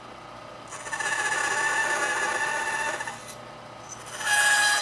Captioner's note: tool squealing